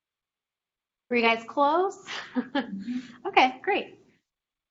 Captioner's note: chuckles